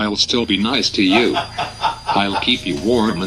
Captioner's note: laughing